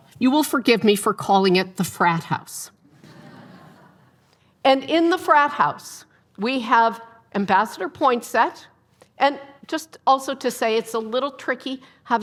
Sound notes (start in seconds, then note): 3.0 audience laughing